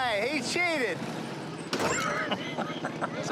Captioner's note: laughs